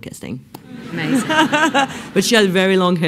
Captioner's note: laughs